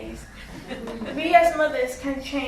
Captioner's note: audience chuckles